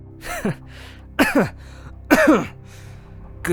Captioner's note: coughs